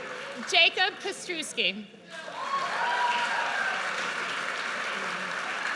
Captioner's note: audience cheers; audience cheers